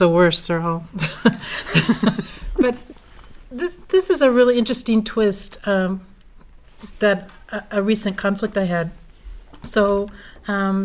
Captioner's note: laugh